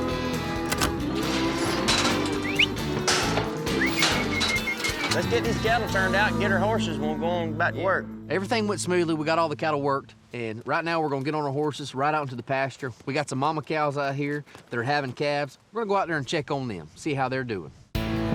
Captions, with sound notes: [EAR TAG CLICKING, GATE CLANKING] [WHISTLING] LET'S GET THESE CATTLE TURNED OUT AND GET OUR HORSES, AND WE'LL GO ON BACK TO WORK. EVERYTHING WENT SMOOTHLY, WE GOT ALL THE CATTLE WORKED, AND RIGHT NOW WE'RE GONNA GET ON OUR HORSES AND RIDE OUT TO THE PASTURE. WE GOT SOME MAMA COWS OUT HERE, THEY'RE HAVING CALVES. WE'LL GO OUT THERE AND CHECK THEM; SEE HOW THEY'RE DOIN'.